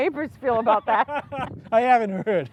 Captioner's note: both laugh